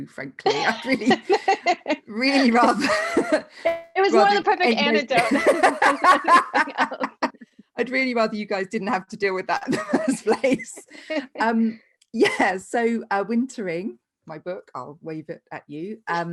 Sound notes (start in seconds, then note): 0.5 laughing; 5.1 laughing loudly